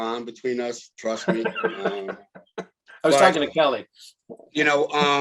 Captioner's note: laughs